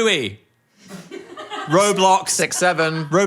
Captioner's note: producer laughs